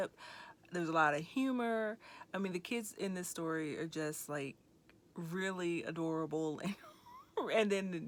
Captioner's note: chuckling